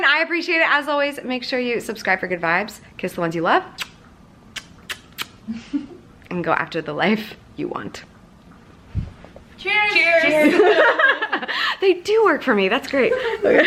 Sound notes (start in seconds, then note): 4.5 kissing; 10.2 laughing